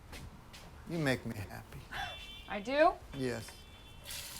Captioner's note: chuckles